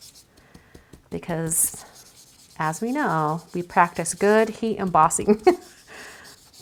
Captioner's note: laughs